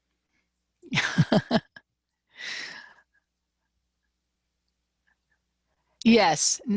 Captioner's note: laughter